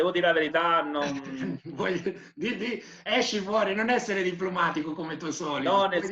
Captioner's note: laughing